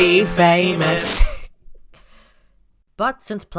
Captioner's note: snickers